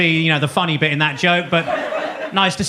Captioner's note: audience laughs